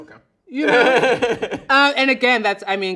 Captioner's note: laughs loudly